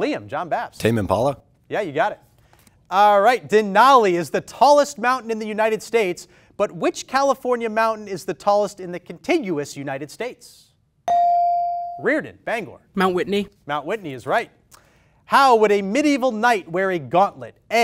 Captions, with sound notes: Liam, John Bapst. - Tame Impala. - Yeah, you got it. All right, Denali is the tallest mountain in the United States, but which California mountain is the tallest in the continuous United States? (ding) Riordan, Bangor. - Mount Whitney. - Mount Whitney is right. How would a medieval night wear a gauntlet?